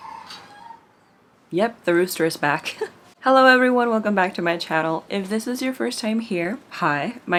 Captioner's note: rooster noises